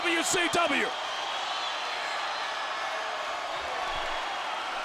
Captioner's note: audience cheering